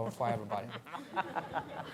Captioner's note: laughter